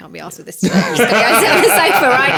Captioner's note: laughing